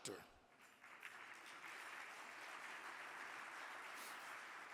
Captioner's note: audience clapping